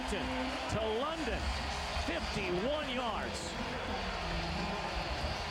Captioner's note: cheers, applause